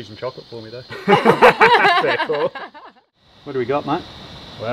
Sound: everyone laughing

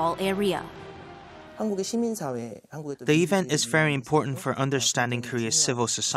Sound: Korean

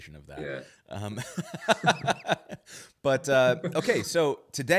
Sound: laughs

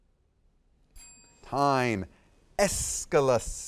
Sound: bell ringing

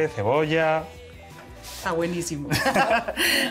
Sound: laugh

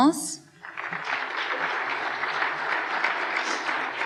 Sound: applause

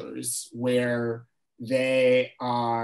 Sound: none

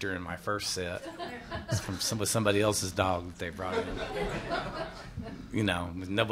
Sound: laughter

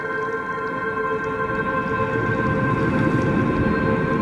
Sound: wind blows

